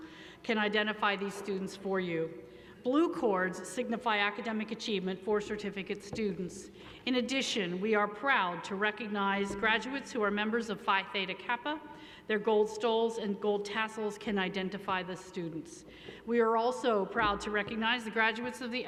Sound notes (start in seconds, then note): none